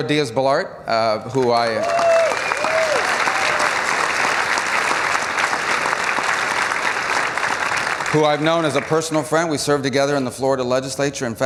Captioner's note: applause